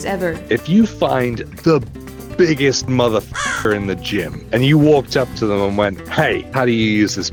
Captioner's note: crow